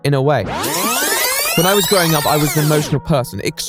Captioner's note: rewind Noise